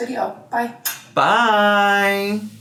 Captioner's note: kisses hand